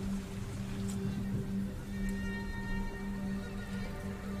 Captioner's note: thunder rumbling